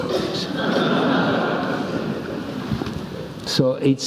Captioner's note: laugh